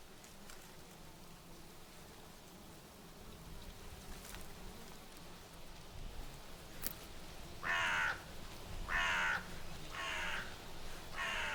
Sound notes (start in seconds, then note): 8.8 bird crowing